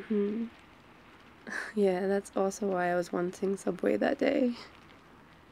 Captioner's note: laughs